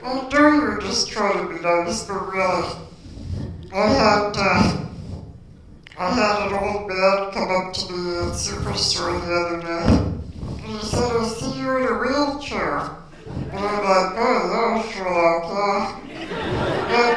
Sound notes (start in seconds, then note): 13.1 laughter